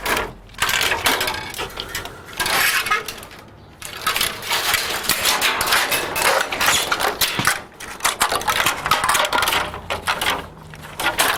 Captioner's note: sound of metal cable wires being pulled and tightened